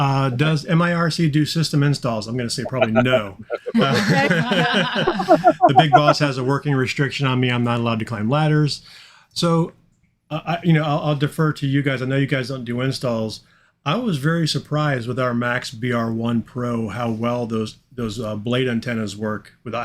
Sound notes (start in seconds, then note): 2.6 all laughing